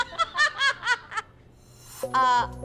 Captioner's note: laughing